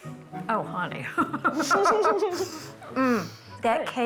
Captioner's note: laughs